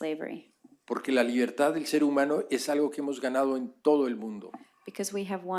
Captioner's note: speaking spanish